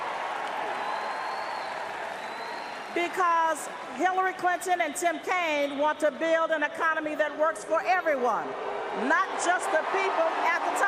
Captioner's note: cheers and Applause